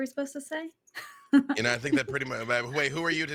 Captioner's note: laughing